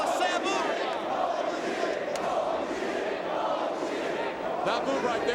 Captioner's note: crowd chanting